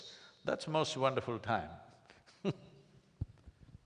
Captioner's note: laughs